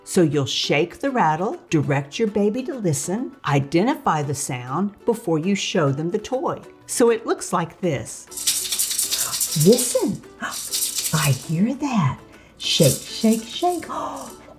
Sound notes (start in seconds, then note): 8.3 rattle rattling